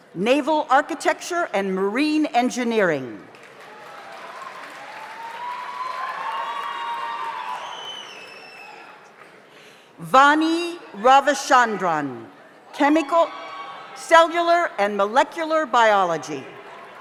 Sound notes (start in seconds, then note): 3.3 audience applauds; 3.6 audience cheers